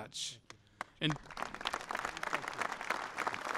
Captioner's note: applause